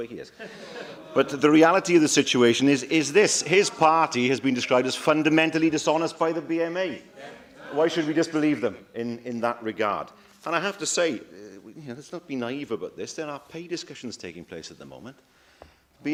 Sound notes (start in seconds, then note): 0.3 laughter